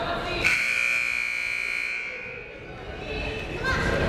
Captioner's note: whistle blaring; buzzer blaring